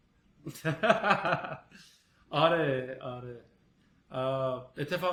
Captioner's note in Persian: خنده